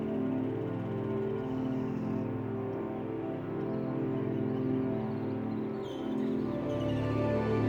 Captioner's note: bird noises blending with the ambient sounds of nature